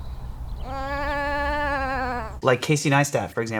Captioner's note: lamb bleating